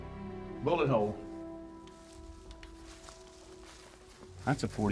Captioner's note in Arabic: خطوات